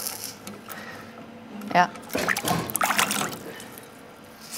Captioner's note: splashing